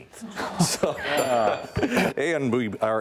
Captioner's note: laughing